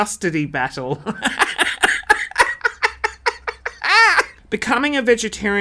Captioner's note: laughing